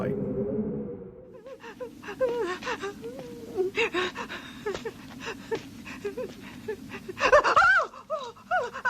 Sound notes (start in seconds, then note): 3.7 woman sobbing